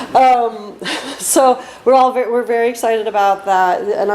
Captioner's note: laughs